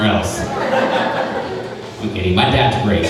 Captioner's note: crowd laughing